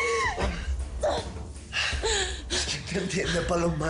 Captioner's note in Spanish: Sollozos